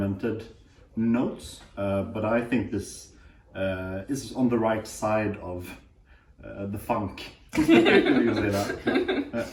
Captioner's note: laughter